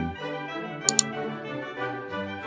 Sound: click

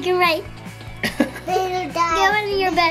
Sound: dad laughing

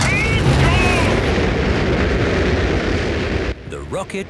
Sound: rockets blasting

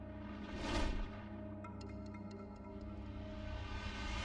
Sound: eerie whooshing

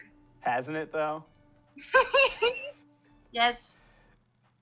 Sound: laughter

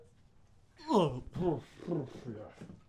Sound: grunts

